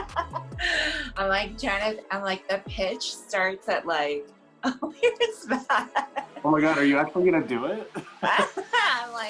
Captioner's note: laughter